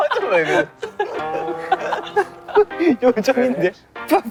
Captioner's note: unable to hold the laughter